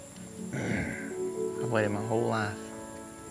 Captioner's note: clears his throat